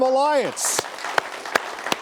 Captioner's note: applause